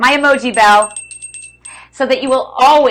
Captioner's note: bell ringing